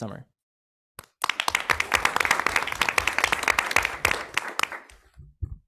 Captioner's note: audience clapping